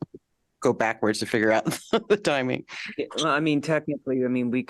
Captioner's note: laughter